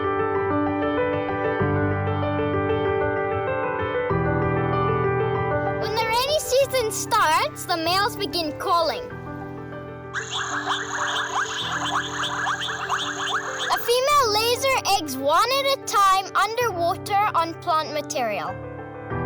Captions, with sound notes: When the rainy season starts, the males begin calling. [frogs call] A female lays her eggs one at a time underwater on plant material.